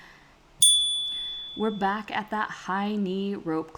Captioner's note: chime